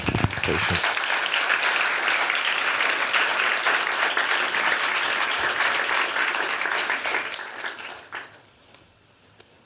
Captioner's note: applause